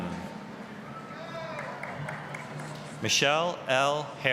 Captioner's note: applause, cheering